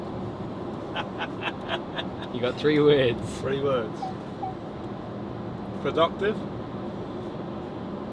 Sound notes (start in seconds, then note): 0.9 laughing